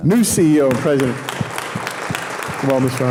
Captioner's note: audience clapping